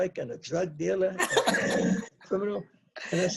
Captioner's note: laughs